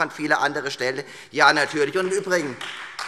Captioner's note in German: Beifall Freie Demokraten